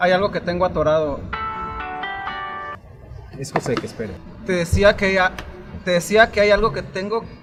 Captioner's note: cellphone rings